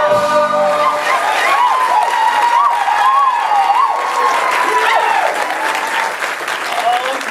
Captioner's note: audience applause and cheers